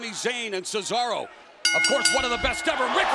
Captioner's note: bell ringing